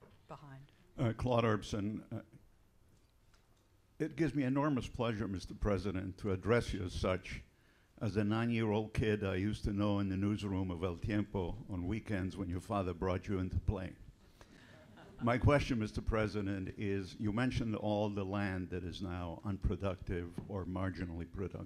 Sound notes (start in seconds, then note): 14.8 laughter